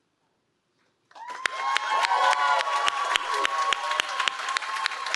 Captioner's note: cheering